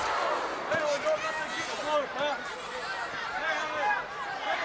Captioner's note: crown shouting